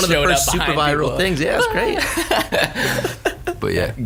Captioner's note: laughs